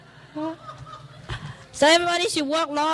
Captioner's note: laughs